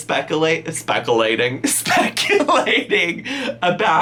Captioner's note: laughs